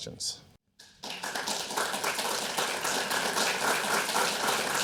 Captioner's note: audience applauding